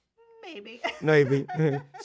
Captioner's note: laughing